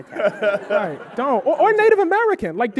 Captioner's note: audience laughing